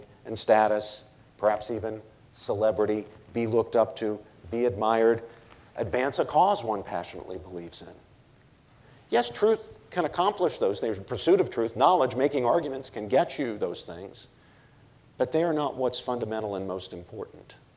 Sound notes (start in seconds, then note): none